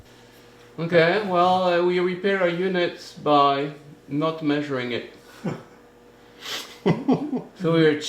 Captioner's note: laughter